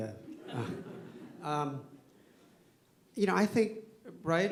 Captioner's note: laughter